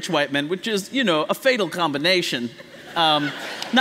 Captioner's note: laughter